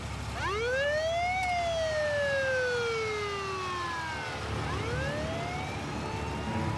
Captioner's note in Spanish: sirenas de la ambulancia